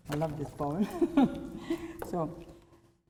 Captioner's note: laugh